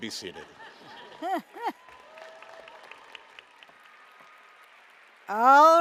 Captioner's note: applause